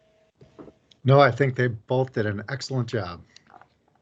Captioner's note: pat